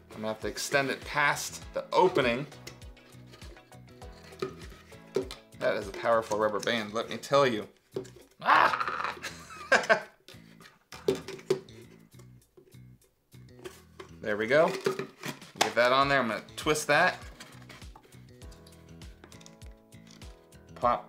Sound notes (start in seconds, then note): 8.4 groans; 8.4 Mr. C laughing; 18.1 upbeat music